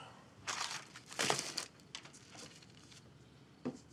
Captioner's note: paper rustles